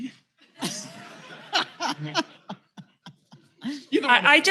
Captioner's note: laughter